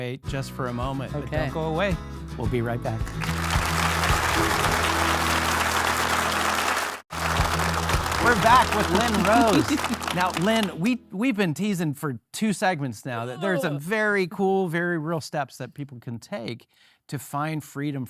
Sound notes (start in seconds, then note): 4.1 bright music; 4.7 audience applauding